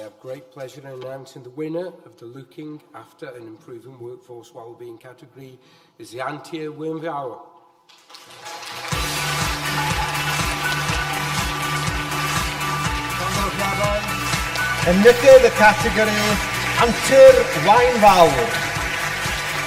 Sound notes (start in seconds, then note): 8.9 audience applause; 8.9 upbeat music